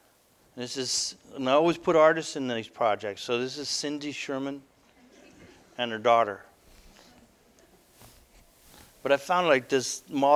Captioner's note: audience: Laughter